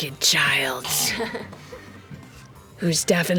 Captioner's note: laughter